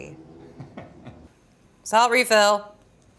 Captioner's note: chuckles